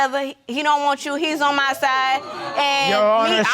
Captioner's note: audience exclaims